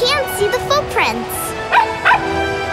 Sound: barking

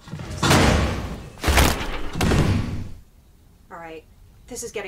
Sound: items banging

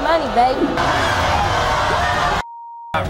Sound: booing

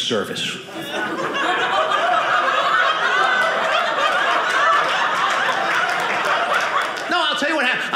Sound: audience laughing

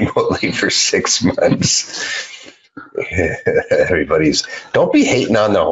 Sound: laughs

